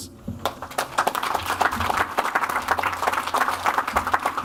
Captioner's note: audience applauds